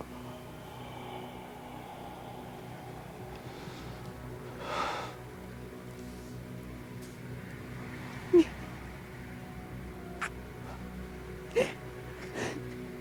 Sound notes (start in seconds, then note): 0.0 Lance exhaling; 3.8 Val crying; 8.3 Megan crying; 10.2 Val kissing and sobbing